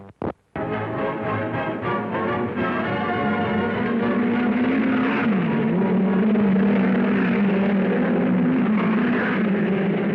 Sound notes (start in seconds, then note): 0.3 thrilling music; 3.5 cars revving